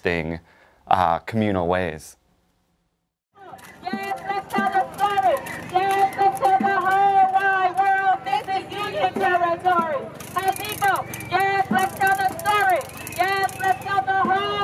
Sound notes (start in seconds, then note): 3.9 on megaphone